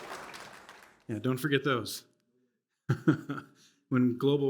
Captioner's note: chuckles